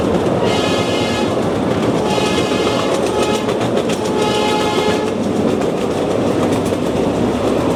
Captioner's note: train horn blows